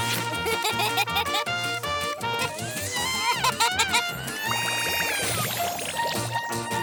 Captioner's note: lively music; laughing